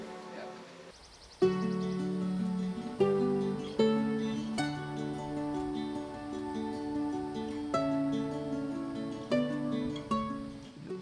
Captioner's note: birds calling